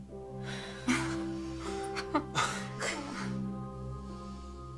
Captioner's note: nervous laughing